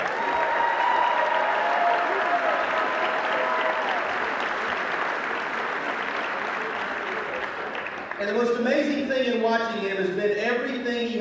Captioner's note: cheering